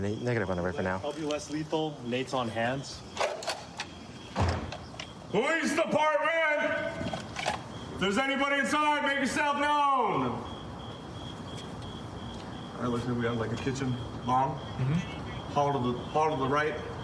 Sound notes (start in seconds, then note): 9.9 crickets chirping